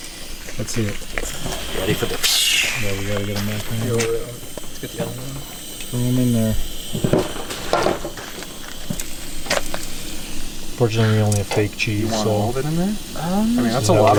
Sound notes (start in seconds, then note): 0.0 exhaling; 7.5 fire blazing